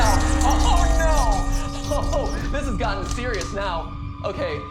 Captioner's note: scratching on glass continues; scratching ceases